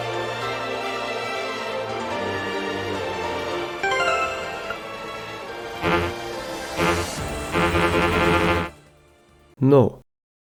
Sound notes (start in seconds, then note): 5.7 buzz; 6.6 buzzing intensifies, cuts out